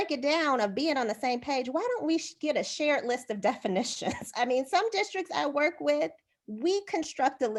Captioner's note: laughter